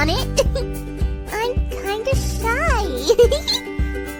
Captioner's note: giggle